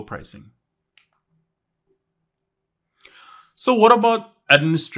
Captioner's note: remote clicking